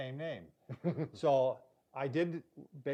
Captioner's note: laughing